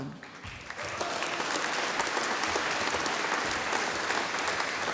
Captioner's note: audience applauding